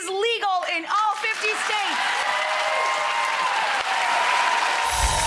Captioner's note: audience cheering; chimes tinkling